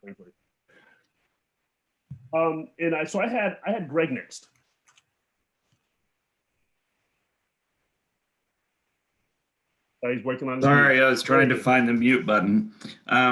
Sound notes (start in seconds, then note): 5.2 silence